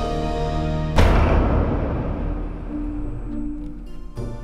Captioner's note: door slams; light orchestral music